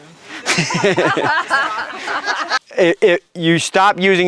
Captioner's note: laughter